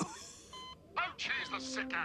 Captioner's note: coughs